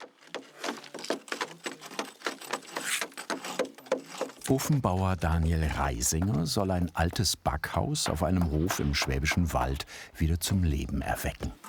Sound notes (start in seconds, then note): 2.1 knocks and scrapes